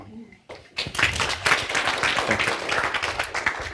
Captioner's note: applause